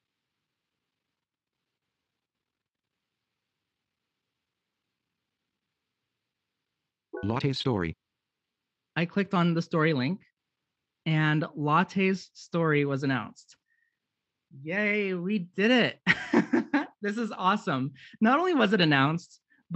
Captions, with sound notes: - [Computer Generated Voice] Latte's story. - I clicked on the story link and Latte's story was announced. Yay! We did it! This is awesome. Not only was it announced